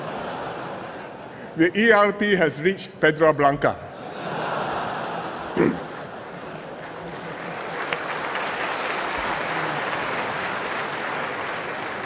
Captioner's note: laughter; laughter and applause